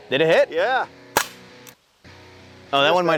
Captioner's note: pistol shot cracking